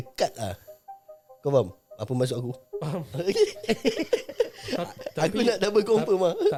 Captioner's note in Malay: ketawa